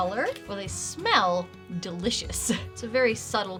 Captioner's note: chuckles